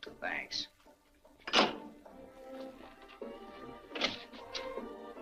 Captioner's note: phone clacks